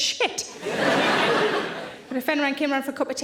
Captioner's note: audience laughing